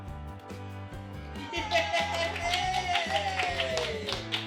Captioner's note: cheering